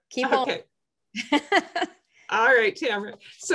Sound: laughs

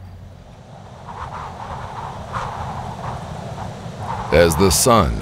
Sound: wind blowing

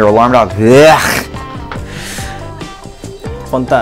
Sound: grunts

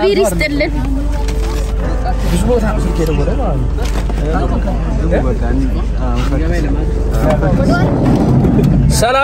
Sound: crowd sound

